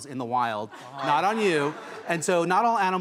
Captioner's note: audience laughs